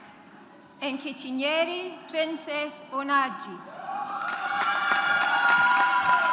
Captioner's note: audience applauds